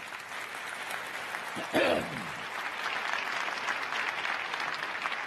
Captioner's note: crowd applauding